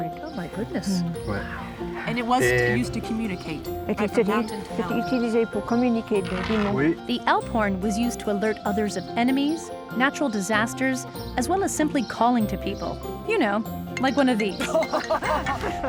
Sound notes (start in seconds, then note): 5.5 speaking French